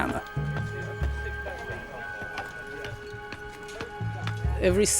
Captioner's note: soldiers chattering